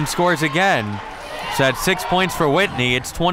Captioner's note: crowd cheering